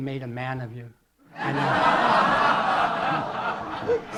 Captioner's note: laughter